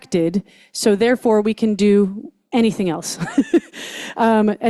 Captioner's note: laughs